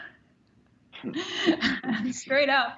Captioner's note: chuckles; laughter